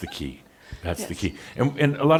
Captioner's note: she chuckles